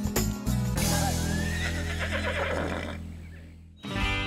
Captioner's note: horse neighs